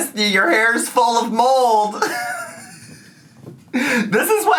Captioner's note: laughs